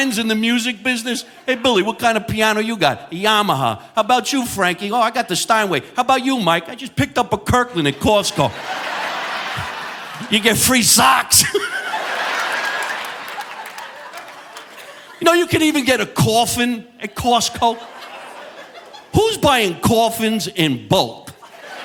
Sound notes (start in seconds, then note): 8.9 audience laughing; 11.7 chuckles; 12.4 audience laughing